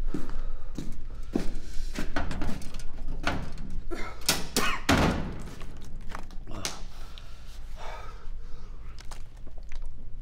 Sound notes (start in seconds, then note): 3.8 coughs